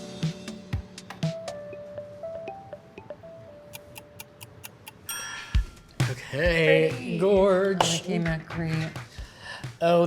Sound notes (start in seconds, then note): 3.7 timer dings; 3.7 ticking